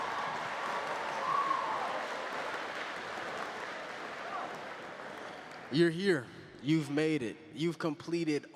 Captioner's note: cheering